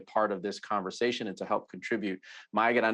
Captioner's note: speaks Spanish